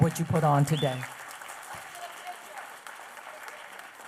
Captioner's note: applause